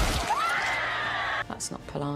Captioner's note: screaming